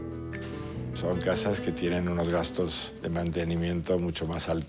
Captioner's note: speaking foreign language